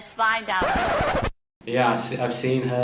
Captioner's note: record scratch